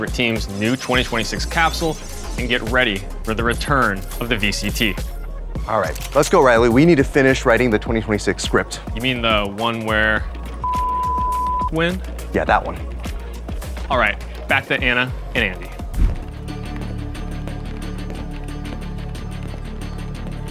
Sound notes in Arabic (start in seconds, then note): 10.6 بيب